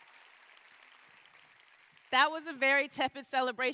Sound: cheers and applause

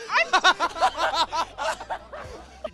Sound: laughing

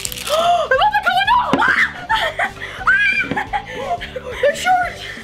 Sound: both girls exclaim

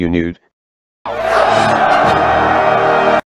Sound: crowd Screaming

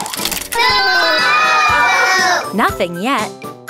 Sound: audience booing

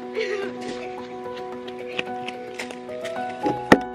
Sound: peaceful piano music; laughing

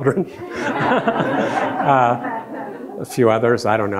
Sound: all laughing

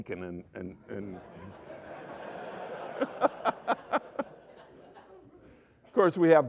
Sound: laughter

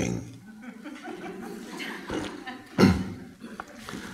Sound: audience laughs

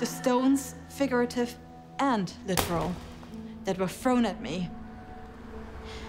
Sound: thuds; slow orchestral music

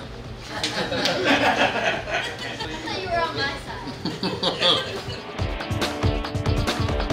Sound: laughing

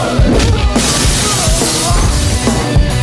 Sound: glass shatters

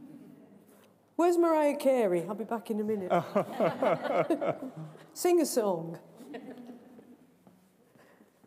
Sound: laughter

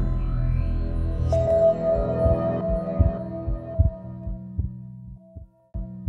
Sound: dramatic electronic sounds

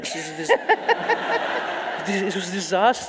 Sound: audience laughs

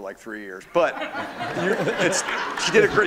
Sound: laughter

